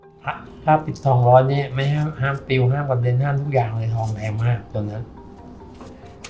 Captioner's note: speaking foreign language